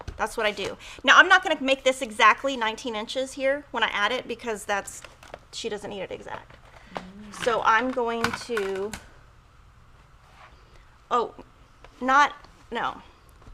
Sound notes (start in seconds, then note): 9.2 equipment clatters